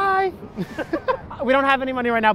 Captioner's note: laughing